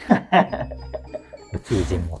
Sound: laughing

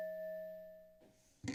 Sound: timer dings stop

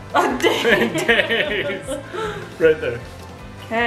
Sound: dad and mom laughing

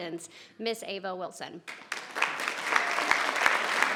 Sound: audience clapping

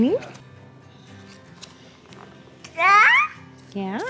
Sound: babbling

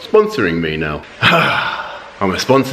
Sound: sighs

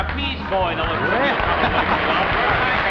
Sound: audience applauds

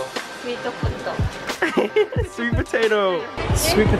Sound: both laughing

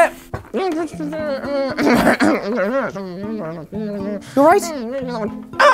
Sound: zb clears throat and mumbles

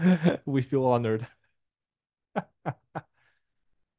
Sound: laughs

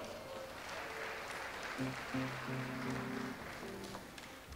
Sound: audience applauds

